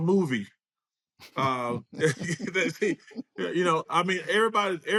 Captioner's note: both laugh